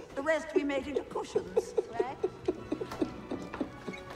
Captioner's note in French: Raif riant